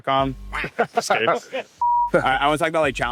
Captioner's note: laughing